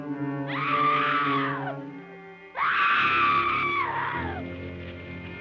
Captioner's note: Bonnie screaming